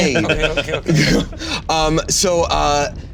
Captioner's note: giggling